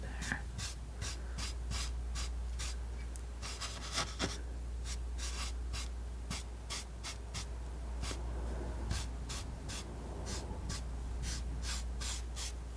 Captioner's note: scratching